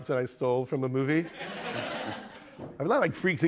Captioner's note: laughter